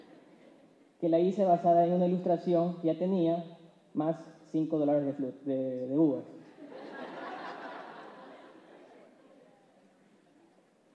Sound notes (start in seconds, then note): 6.7 laughs